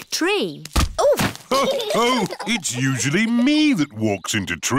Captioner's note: others laugh